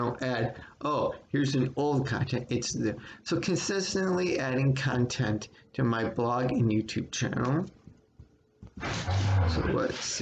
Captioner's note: dog growls in background